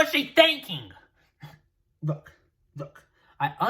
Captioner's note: angry noises